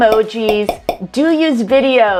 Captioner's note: pop